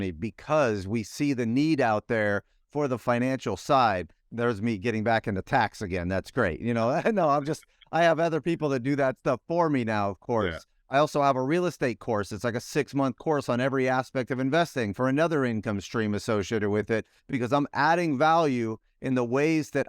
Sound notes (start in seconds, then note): 7.0 laughs